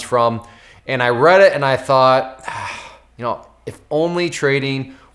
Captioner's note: sighs